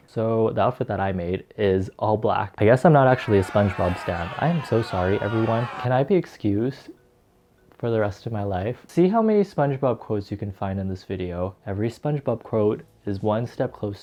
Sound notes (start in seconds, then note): 0.0 laughs; 3.0 people booing